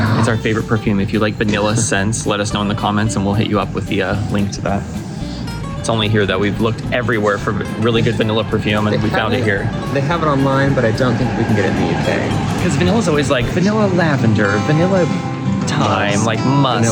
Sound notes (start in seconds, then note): none